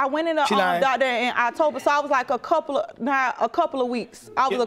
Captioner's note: stuttering